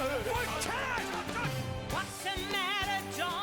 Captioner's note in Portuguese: Don yelling